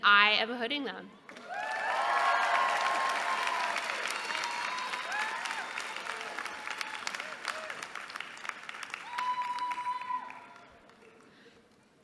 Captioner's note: applause